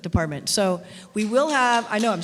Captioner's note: clapping